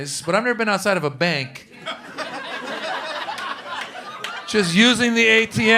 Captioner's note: laughter